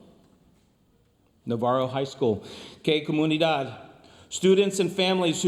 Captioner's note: speaks foreign language